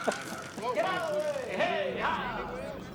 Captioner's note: laughs